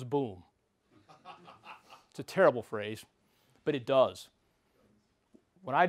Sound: laugh

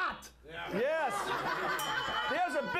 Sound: bell rings

